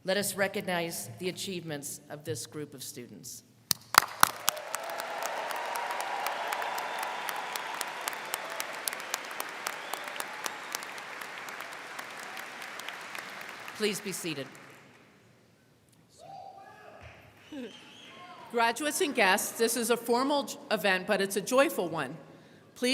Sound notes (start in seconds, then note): 4.4 crowd cheering; 4.4 crowd clapping